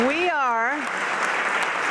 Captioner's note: applause